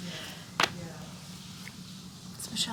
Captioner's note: paper flopping